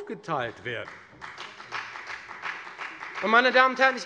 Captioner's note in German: Beifall bei der FDP